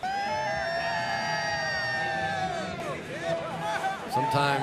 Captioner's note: cheering